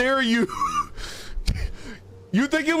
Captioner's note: chuckles